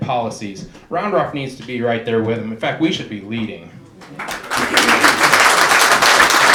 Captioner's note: clapping